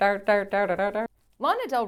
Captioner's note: humming